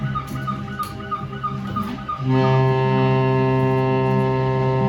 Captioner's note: ship horn